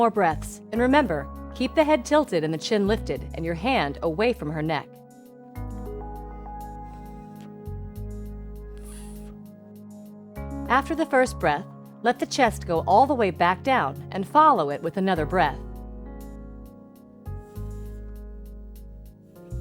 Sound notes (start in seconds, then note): 5.5 blowing; 17.2 blowing